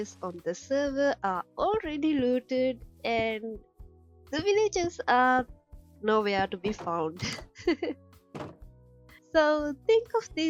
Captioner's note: chuckle